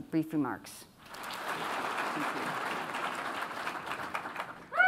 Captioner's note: applause